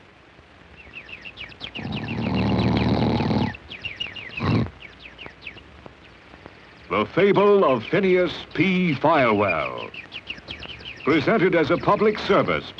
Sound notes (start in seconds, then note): 5.1 birds chirping, man snoring